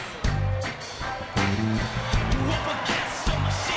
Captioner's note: cheers and applause